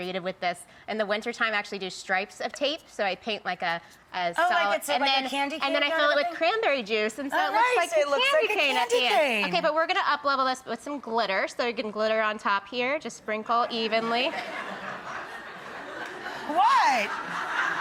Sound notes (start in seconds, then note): 13.8 audience laughs